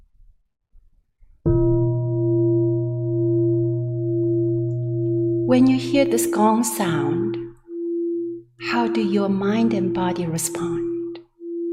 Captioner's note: temple gong rings and fades